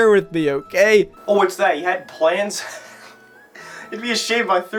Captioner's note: snicker